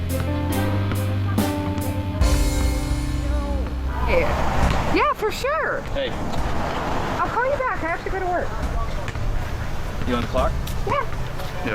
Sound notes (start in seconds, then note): none